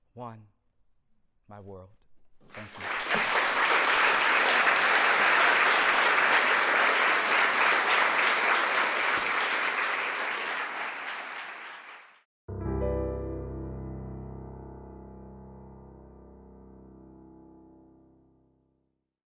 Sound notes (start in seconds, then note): 2.4 applause; 12.5 piano chord playing